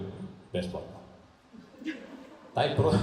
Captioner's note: laughs